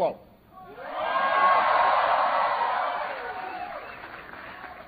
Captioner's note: applause